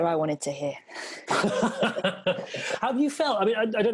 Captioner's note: laughs